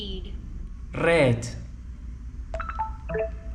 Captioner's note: mispronounced in English